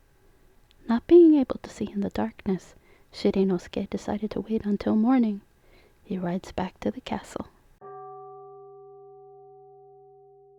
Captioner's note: temple bell rings